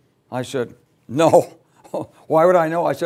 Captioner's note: laugh